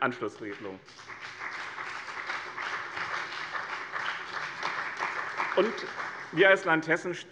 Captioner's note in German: Beifall bei dem BÜNDNIS 90/DIE GRÜNEN und der CDU